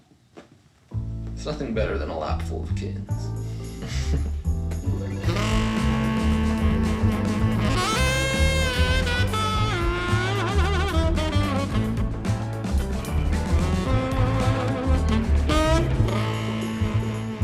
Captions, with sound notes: There's nothing better than a lap full of kittens. (laughs) (funky music)